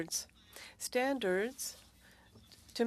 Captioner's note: speaking French